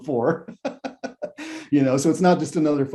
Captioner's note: laughs